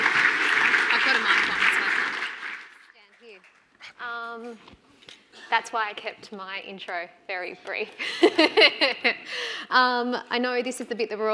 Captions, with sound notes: - I've got a mic on stand here. That's why I kept my intro very brief. (laughs) I know this is the bit